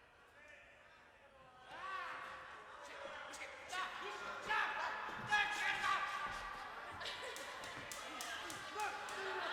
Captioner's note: background bedlam of the insane asylum